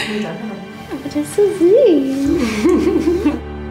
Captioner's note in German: Kichern